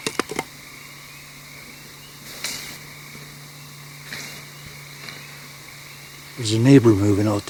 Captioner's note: twigs snap